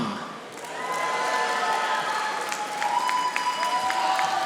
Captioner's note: audience applauding